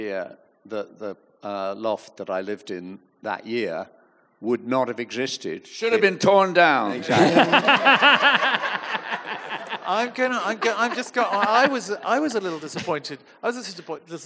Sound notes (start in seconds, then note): 7.0 audience laughing heartily